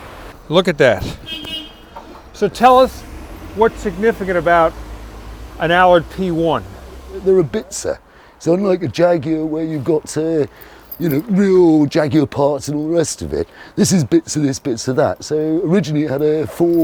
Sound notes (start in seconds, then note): 1.0 horn beeping